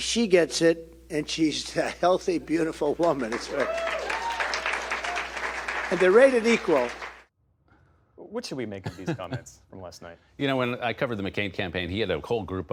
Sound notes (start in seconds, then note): 3.3 cheering; 5.8 applause